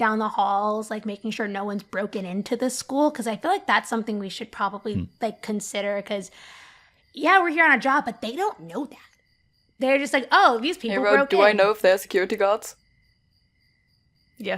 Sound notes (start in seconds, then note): none